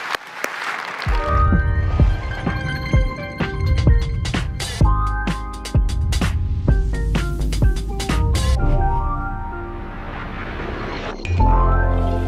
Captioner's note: applause